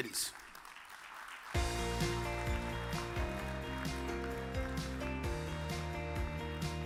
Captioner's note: audience applause; uplifting music